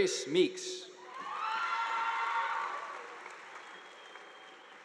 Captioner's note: audience applauding